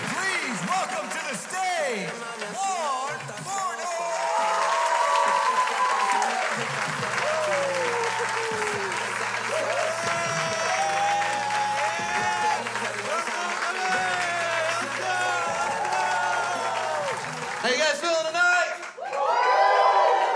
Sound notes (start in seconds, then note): 4.2 crowd cheers; 9.0 crowd cheers; 9.5 cheers; 14.0 cheers; 16.3 crowd cheers; 19.2 crowd